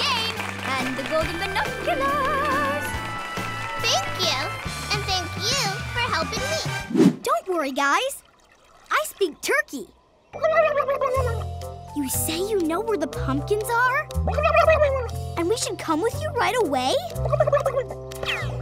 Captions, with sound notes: And the golden binoculars! Thank you! And thank you for helping me. Don't worry, guys. I speak turkey. [turkey gobbling] You say you know where the pumpkins are? [gobbling] And we should come with you right away? [gobbling]